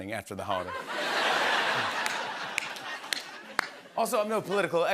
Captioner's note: laughter